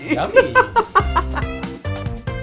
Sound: laughs; upbeat music

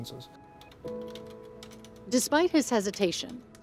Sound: keys clicking

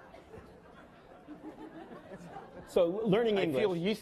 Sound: laughing

